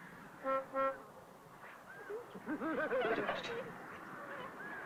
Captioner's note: honking - laughs